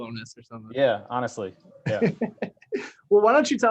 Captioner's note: laughs